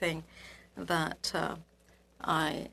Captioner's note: speaking French